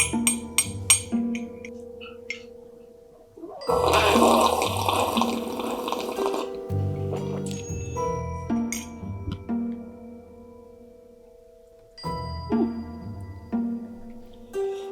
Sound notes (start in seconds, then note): 0.0 spoon clinking on mug; 3.6 woman slurping drink; 8.0 ominous music